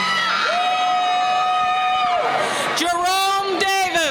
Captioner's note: cheering